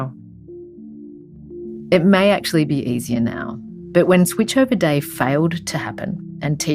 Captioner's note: voiceover